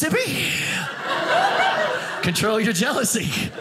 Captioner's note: audience laughing